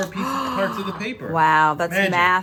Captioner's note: gasp